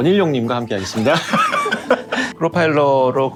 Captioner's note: laughter